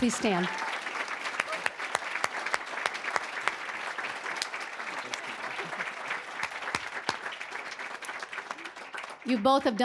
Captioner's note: applause